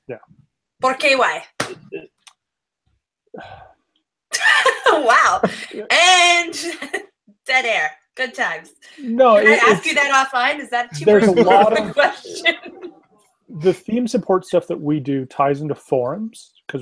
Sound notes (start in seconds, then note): 3.3 sighs; 4.4 laughs